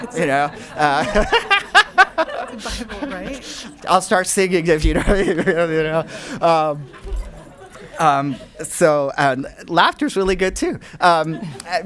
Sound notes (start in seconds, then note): 0.0 laughing; 5.6 voice muffled; 6.6 audience laughing and murmuring